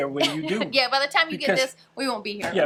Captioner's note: laughs